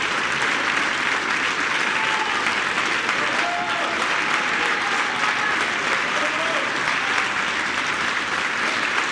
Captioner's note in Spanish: aplausos